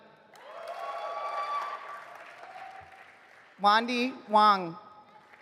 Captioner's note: audience applauding